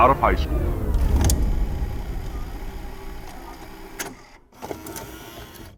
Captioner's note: film reel whirring